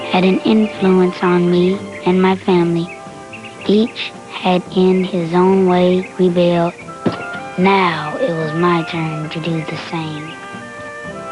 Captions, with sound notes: had an influence on me and my family. Each had in his own way prevailed. [thunk] Now, it was my turn to do the same.